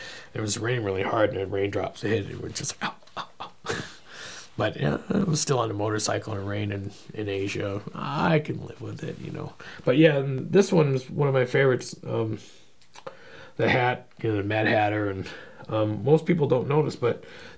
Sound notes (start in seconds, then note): 7.4 chuckling